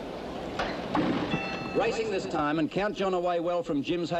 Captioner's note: bell dings